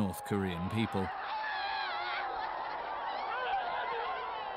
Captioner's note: crowd screaming